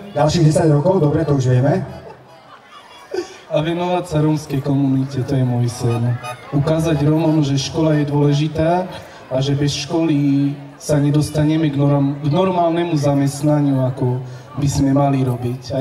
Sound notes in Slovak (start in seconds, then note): 2.0 Smiech